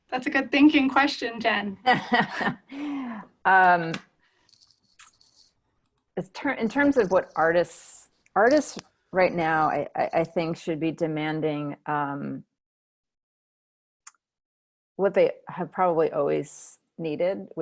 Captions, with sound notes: That's a good thinking question Jen. (laughing) In terms of what artists, artists right now I think should be demanding what they have probably always needed